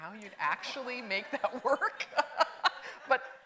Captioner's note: laughs; audience laughing